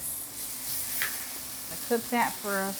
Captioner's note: oil sizzling